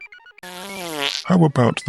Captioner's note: passing wind